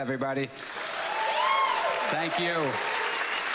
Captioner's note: audience cheers